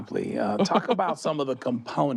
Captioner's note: chuckles